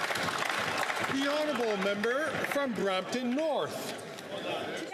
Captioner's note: some Applause